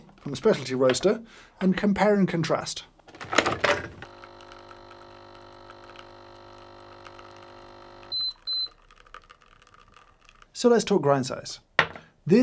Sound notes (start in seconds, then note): 4.0 machine whirring; 8.1 machine beeping